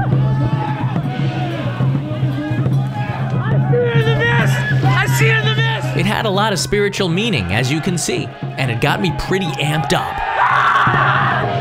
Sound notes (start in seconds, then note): 3.3 screaming; 10.1 screaming